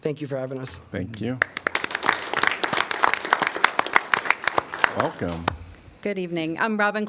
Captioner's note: applause